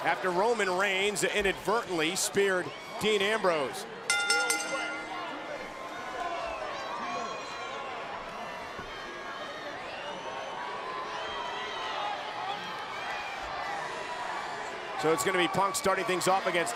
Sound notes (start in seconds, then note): 4.1 bell rings